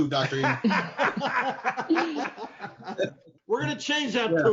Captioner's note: laughing